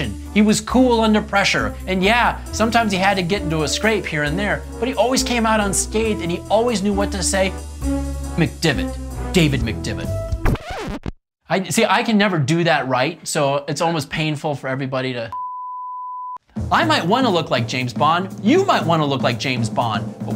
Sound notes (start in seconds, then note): 10.4 record scratching; 15.3 tone beeping